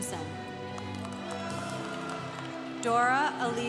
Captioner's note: congregation cheering